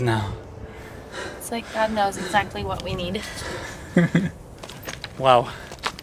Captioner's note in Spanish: ríe